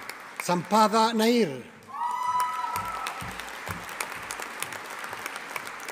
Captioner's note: audience applauding